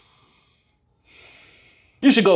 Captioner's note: exhales; inhales